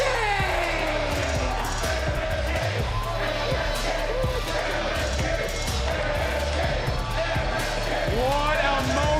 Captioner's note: audience chanting, "msk"